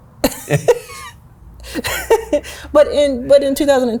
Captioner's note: laughs